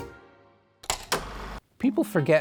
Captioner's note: lively music; film reel clacking